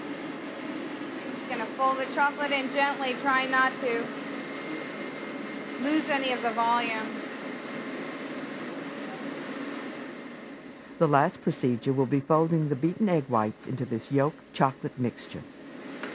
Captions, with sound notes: She's gonna fold the chocolate in gently trying not to lose any of the volume. - [Voiceover] The last procedure will be folding the beaten egg whites into this yolk chocolate mixture.